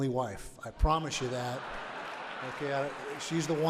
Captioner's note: audience laughs